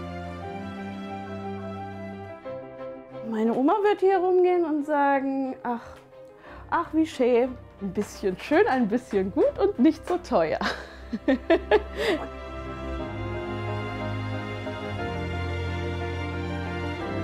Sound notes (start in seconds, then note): 10.6 she laughs; 12.4 dreamy music